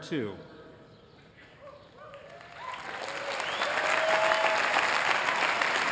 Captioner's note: cheering